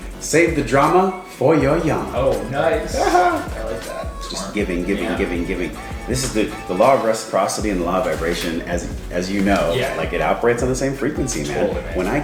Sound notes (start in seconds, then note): 0.0 clinks; 3.1 laughs